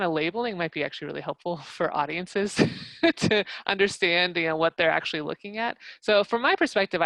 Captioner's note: laugh